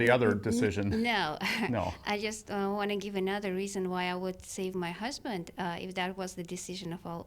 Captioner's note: laughs